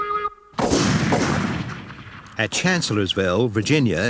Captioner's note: guns bang